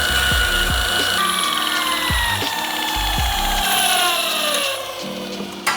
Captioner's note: drilling